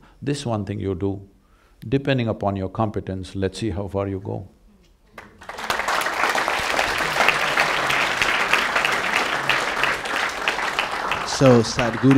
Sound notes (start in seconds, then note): 5.1 applause